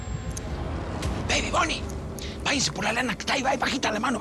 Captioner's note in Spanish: latidos